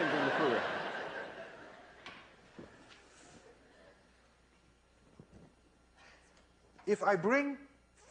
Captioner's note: laughter